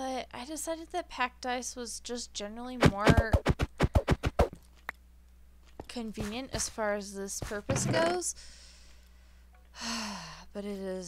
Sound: sigh

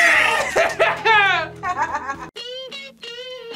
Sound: laughs; upbeat music

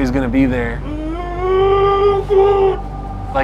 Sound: moans

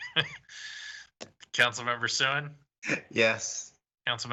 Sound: laughter

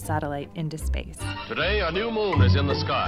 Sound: archive news radio

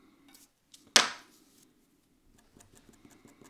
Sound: brush scratching; brush thuds; paper scratching

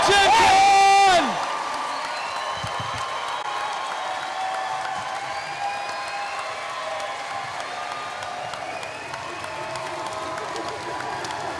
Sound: cheering

